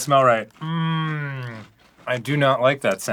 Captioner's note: pensive humming